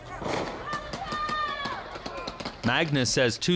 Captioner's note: protestors shouting